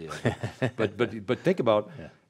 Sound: laughs

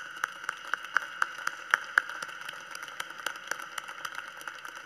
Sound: applause

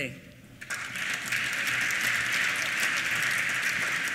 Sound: applause

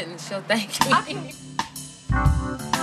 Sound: laughs

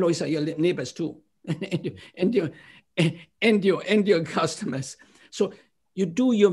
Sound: laughter

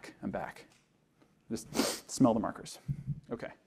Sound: sniffs

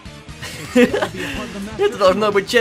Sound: laugh

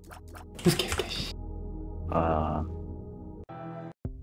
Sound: low IQ sounds

